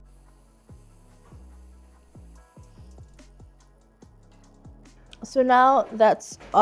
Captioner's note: soft upbeat music; pan softly hissing